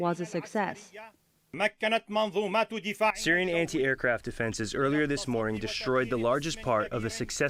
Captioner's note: through translator